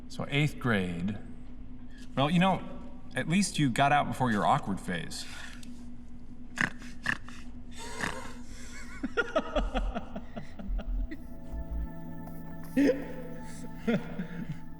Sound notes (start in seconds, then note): 6.5 emphatic snorting; 7.6 laughing; 11.1 giggling; 12.6 continued laughter